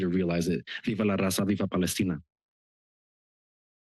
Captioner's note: foreign language